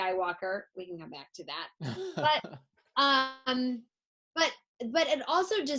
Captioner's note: laughs